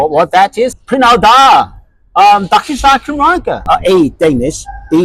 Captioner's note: in Welsh